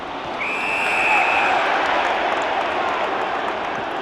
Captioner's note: whistle blows